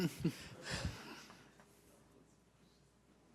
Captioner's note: laughing